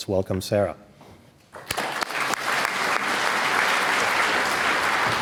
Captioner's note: applause